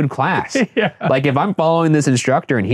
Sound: laughing

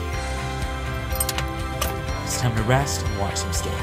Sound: latch rattling

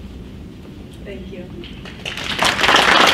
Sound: crowd applauds

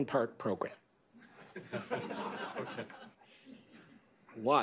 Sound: laughter

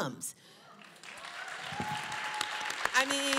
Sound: applause

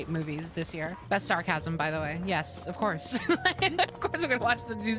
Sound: laughter

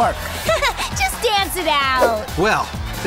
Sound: giggles

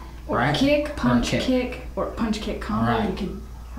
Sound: none

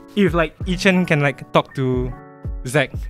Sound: none

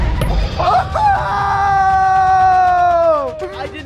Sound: yelling

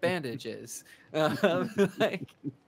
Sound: chuckling

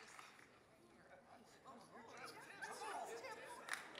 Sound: chatter

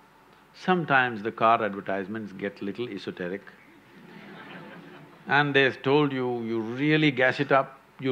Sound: laughter

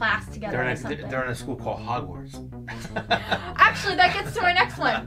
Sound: laughs

